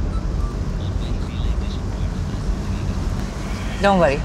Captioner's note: Radio playing